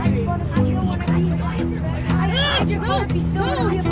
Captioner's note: cheerful guitar music; students chattering